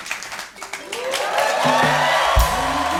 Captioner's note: cheers and applause